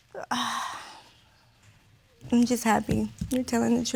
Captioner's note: sighs deeply